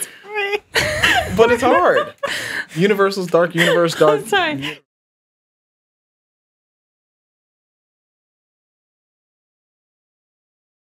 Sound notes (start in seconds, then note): 5.0 all laughing